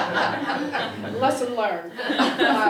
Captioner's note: laugh; laugh